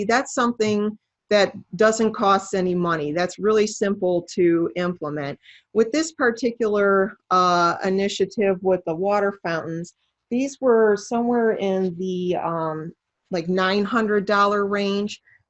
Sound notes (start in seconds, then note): none